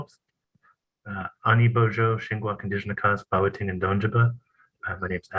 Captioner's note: non-english speech